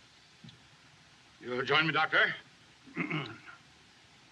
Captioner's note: clears Throat